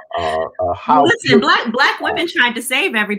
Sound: laughter

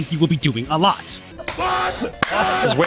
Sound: distorted screaming

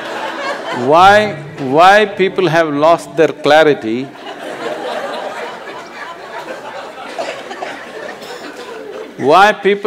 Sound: laughter

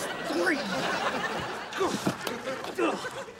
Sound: grunting

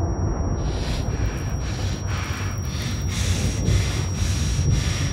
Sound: Dave gasping

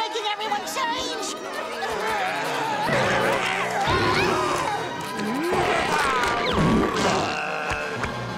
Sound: groaning

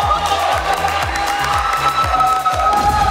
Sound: clapping

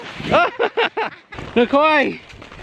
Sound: both laughing

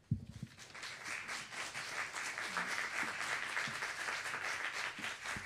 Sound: applause

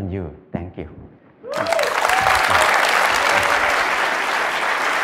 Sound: Aplauz

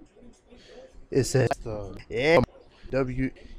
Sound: audio skips

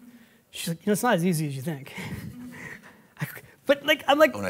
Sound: laughs

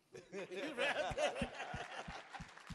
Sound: laughing

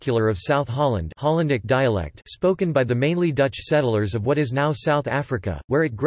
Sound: hollandic dialect

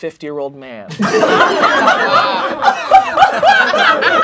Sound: laughing

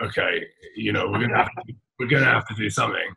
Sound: laughing

